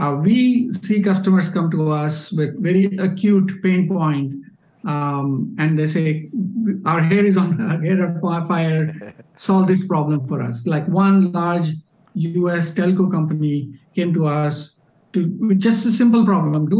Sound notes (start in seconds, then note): 8.8 laughing